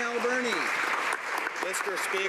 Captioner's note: applause